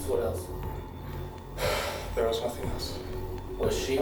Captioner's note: sighs